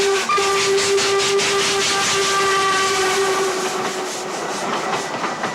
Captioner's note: train horn